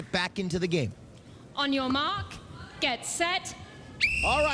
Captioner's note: whistle blows